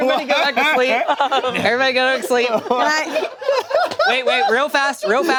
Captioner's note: group laughing